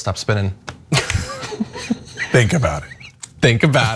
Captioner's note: laugh